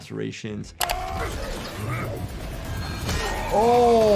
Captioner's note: characters grunting and yelling